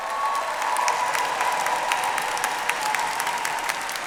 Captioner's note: audience applauds